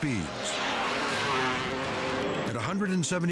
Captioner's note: engine roars